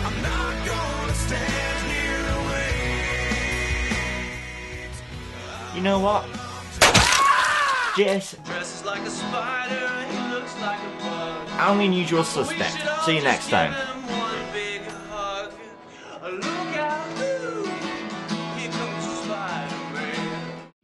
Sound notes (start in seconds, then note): 6.8 gunshot; 7.0 screaming